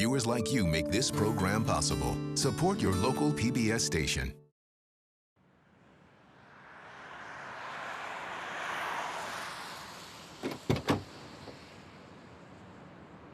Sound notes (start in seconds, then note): 5.4 traffic whooshing past; 10.4 van door opens